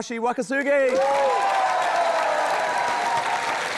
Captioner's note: cheering, applause